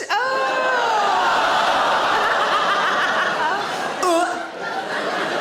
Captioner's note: audience exclaims; audience laughing; Sarah gags